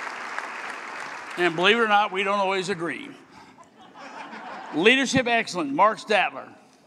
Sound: applause

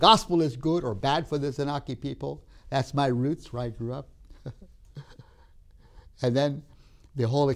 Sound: laughs

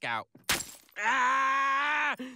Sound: glass crushes feet

